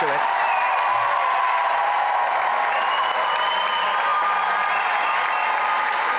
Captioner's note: applause and cheering